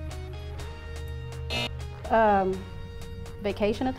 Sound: buzzer

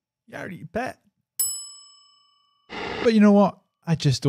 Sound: ding

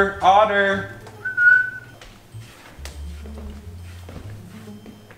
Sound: whistling

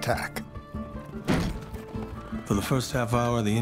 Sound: door slams

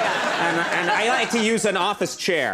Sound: audience laughing

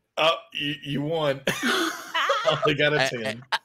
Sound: laughs

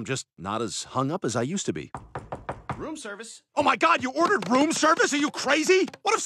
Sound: knock at door

